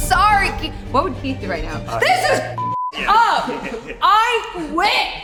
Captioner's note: beep